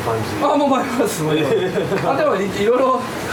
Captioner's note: laughs